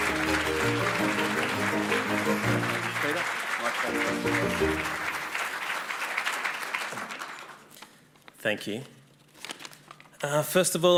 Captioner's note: applause